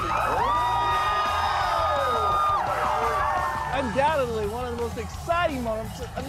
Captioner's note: applause